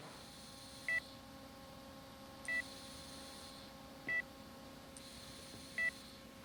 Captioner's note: air hissing; machine beeping